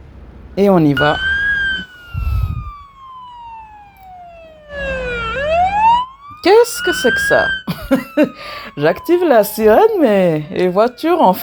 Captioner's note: laughs